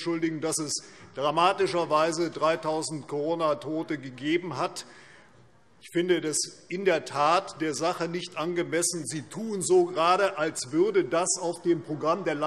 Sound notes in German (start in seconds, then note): none